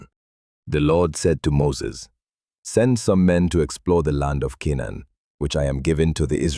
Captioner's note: commanding